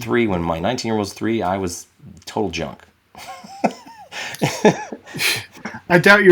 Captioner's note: laughing